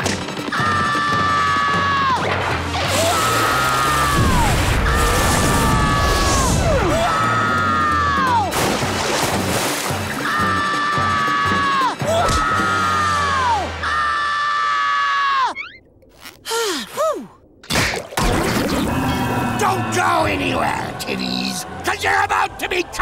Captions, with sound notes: [screaming] Whoa! [screaming] Whoa! [screaming] Whoa! [screaming] [sighing] [snapping, thudding] Don't go anywhere, kiddies, cause you're about to be cursed